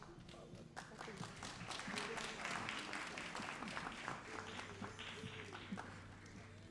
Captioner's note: all applauding